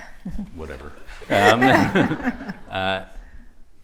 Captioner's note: laughter